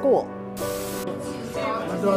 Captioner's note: television static noise